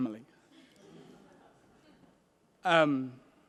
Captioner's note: laughter